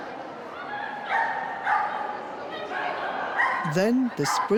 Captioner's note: dog barking